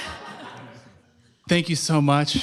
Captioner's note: laughter